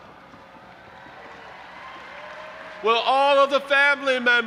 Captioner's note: audience applauding and cheering